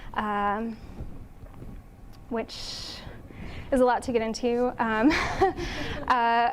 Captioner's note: chuckles